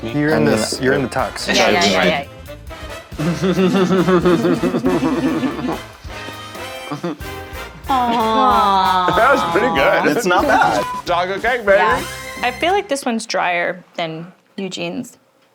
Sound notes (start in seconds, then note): 3.2 giggling; 7.8 all cooing; 10.6 beep